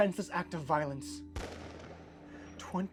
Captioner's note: gunshot booms